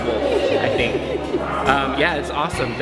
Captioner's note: laughing